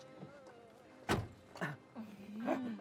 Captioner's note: car door slams shut; both laughs